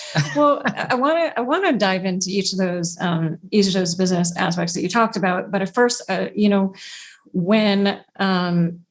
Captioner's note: laughs